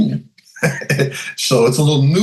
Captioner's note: chuckles